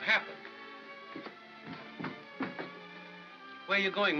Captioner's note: Mother Peep's footsteps